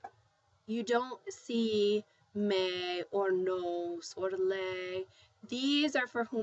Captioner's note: spanish